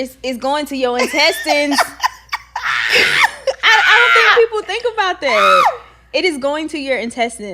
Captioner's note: laughing